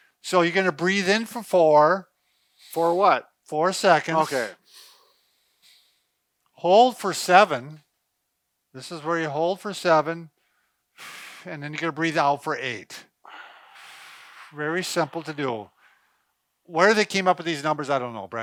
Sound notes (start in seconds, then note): 2.2 inhaling; 4.1 inhaling; 10.4 exhaling; 13.2 exhaling